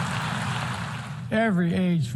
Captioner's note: applause